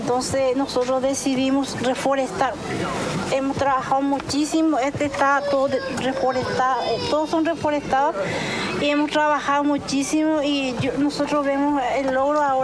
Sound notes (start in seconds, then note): 1.4 speaking In Foreign Language